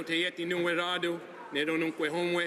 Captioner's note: speaking native language